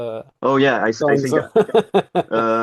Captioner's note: laughing